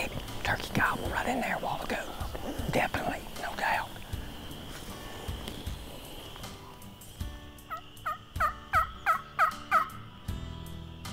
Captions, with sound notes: - That turkey gobbled right in there while ago. Definitely, no doubt. (turkey call)